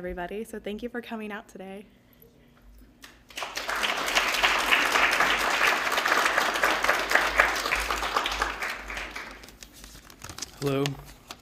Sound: applause

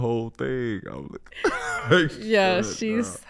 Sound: laughs

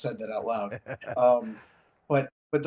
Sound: laughs

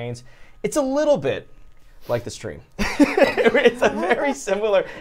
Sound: laughs

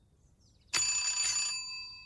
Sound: ring

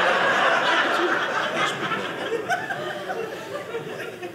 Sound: audience laughing

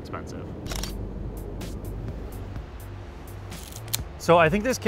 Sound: camera shutter clicks

